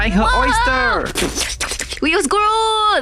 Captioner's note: slurping noises